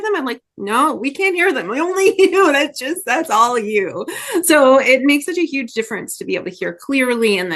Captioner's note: laughs